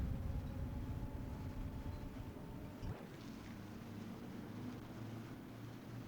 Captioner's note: street noise